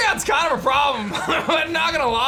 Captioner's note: laughs